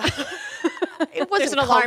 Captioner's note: both laughing